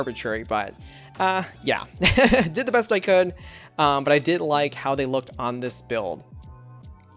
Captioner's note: laughs